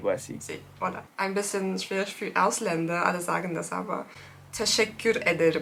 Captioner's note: german